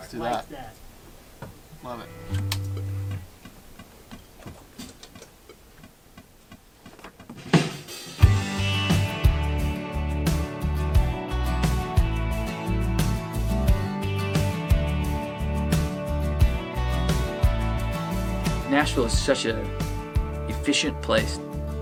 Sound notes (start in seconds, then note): 2.2 metronome beeping; 7.8 upbeat rock music